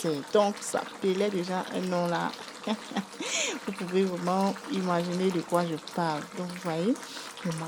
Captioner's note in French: rires